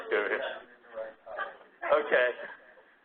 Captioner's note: laugh